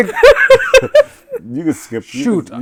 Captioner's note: laughing